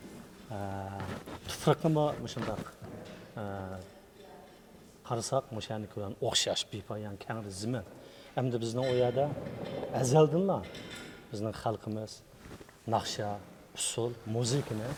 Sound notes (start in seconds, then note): 3.6 speaking in Chinese